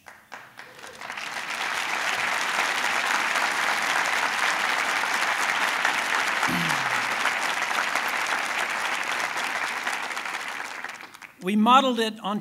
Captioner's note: applause